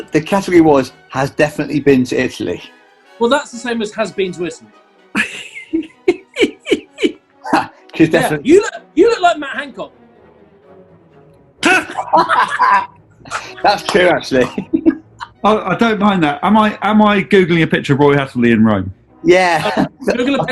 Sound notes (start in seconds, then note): 5.1 giggling; 11.6 laughing